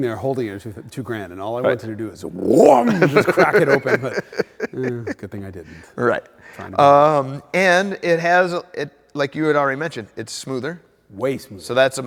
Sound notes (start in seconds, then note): 2.4 laughs